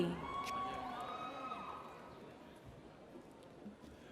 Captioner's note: audience cheers